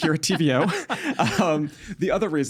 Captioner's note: laughing